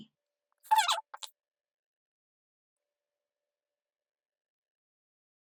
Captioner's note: virtual marker squeaks